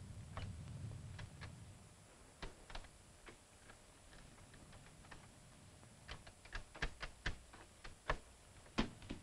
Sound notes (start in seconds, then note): 2.0 doorknob rattling